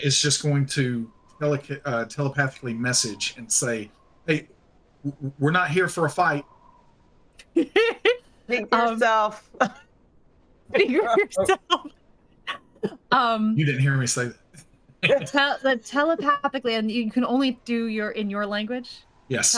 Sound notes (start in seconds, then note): 7.5 cast members laughing